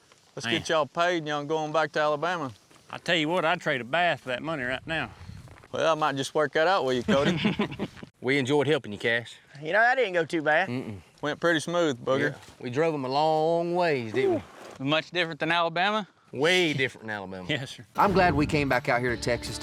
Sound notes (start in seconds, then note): 7.0 chuckling